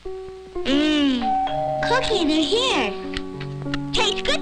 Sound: doorbell

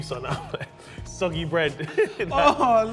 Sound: both laughing

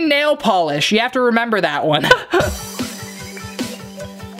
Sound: laughs; upbeat music

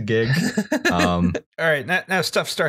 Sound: laughs

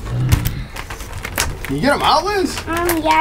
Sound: growls

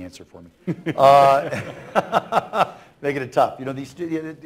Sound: laughter

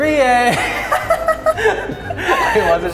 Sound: both laughing

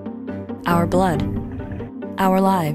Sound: blood pumping

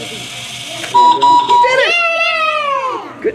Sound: beeping; cheering

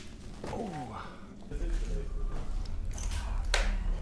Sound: distant chatter

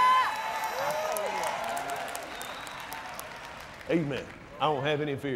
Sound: applauds

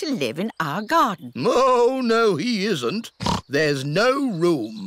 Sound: oinks

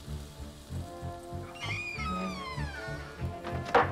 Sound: door creaking

